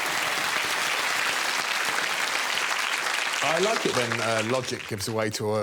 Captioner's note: audience applauding